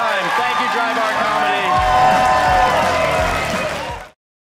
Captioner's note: audience cheering